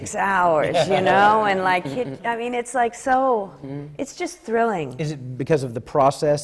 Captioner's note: laughter from the panel